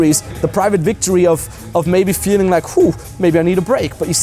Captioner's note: sighs